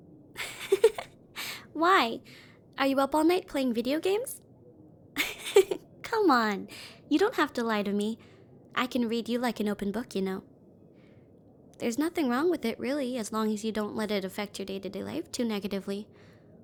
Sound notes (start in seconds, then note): 0.4 giggles; 5.2 laughs lightly